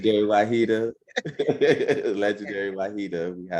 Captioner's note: laughing